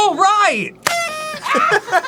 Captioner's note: 🥳 party blower 🥳